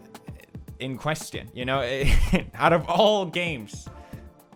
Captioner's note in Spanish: risas